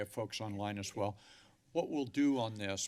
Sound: inhales

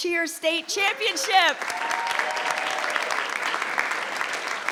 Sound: audience clapping

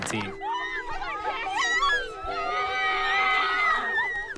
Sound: girls cheering

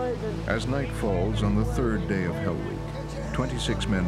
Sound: voiceover

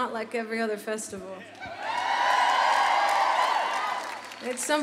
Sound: audience cheering

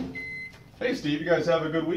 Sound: microwave beeps

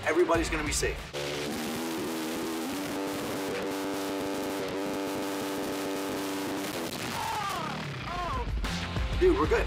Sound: motorbike revving

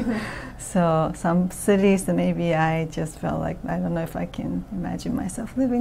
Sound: laughs

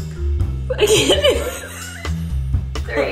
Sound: laughs

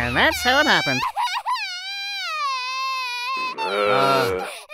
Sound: horrific crying

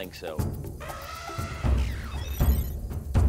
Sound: elephant trumpeting; tribal drum beats

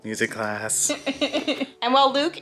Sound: laughing

